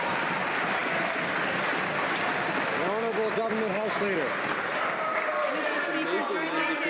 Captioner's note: some Applause